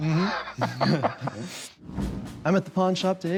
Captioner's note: laughter